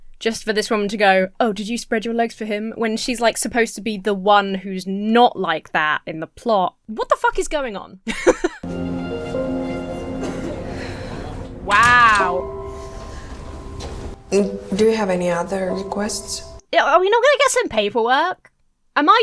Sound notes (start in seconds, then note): 8.0 Emma laughs; 8.6 Mary sighs; 8.6 mournful music